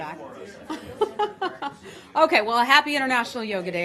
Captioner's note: laughter